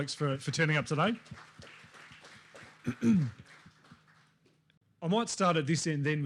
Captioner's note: applause